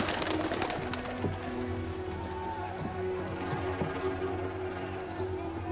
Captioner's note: shouting continues in distance